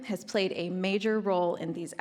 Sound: none

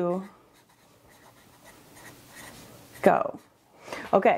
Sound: charcoal scribbling

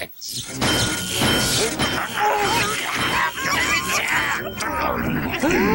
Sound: ding!

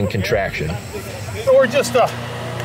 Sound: people chartering

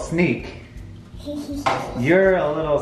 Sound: laughs

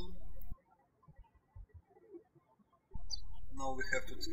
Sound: birds chirping

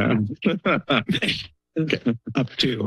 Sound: laughs

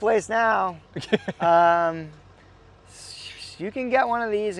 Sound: laughing

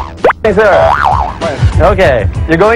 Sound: boing

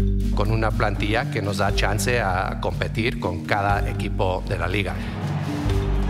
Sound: speaking Spanish

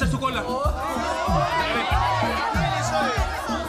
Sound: screams

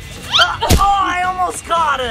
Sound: grunts; pumpkin thudding

